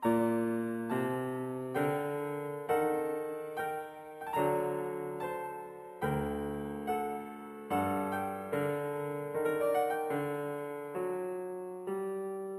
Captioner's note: speaking French